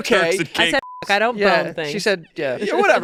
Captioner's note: beep